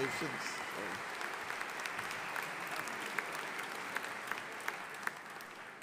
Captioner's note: audience applauding